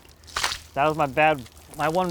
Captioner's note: water splashing